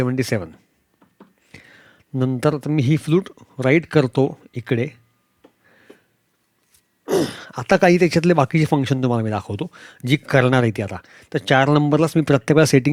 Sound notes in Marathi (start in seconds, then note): 7.1 घसा साफ करणे